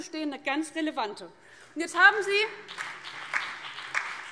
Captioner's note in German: Beifall BÜNDNIS 90/DIE GRÜNEN, vereinzelt CDU und DIE LINKE